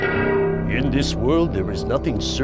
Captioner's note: voiceover